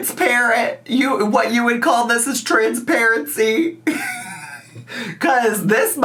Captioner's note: laughs